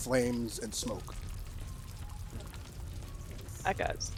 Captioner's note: fire continues